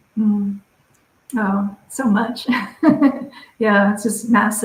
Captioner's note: chuckles